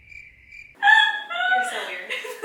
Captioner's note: crickets chirping; squealing